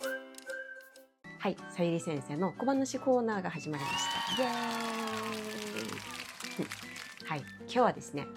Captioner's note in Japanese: 大歓声